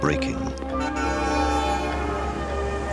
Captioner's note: horn honks